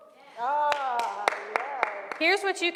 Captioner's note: applause